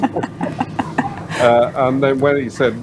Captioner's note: laughter